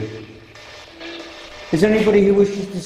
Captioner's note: static buzzing